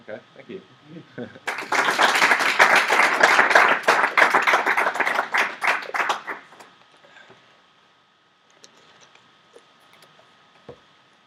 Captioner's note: claps